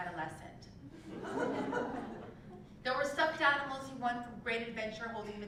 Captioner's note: laugh